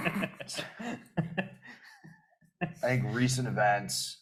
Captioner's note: panelists laughing